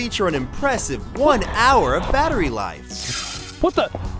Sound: zap

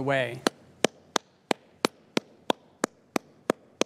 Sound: clapping

